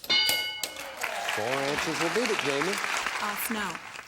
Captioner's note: ding